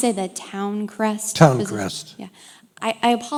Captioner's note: voiceover